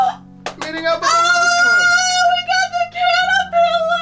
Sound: mommy squeals excitedly

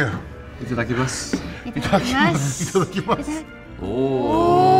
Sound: all speak in foreign language

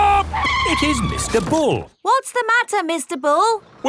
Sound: tires screeching

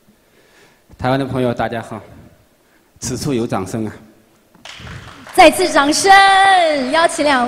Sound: applauding arises

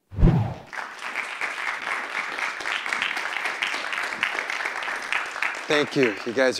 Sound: clapping

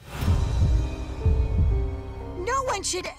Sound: throbbing thumps

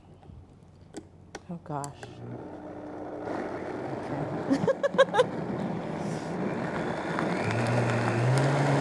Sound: giggles

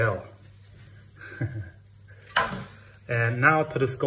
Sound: chuckles

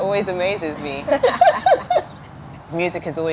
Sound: laughing

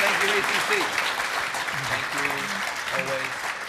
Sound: audience clapping

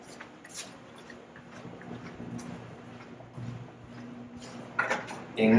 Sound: footsteps

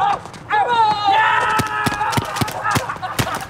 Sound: shouting; laughing

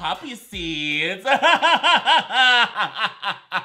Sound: laughs

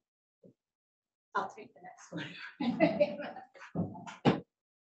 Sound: laughs

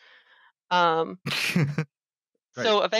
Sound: laughs

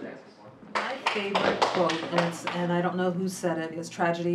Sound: class clapping

